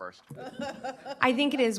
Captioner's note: chuckling